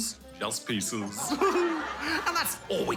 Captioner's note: chuckles